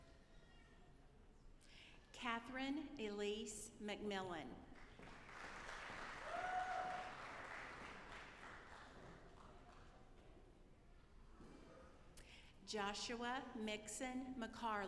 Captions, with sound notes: Kathryn Elise MacMillan. (audience applauding) Joshua Mixson McCarley.